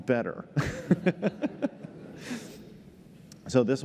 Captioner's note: laughter